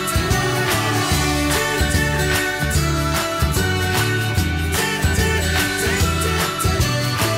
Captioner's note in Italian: Applauso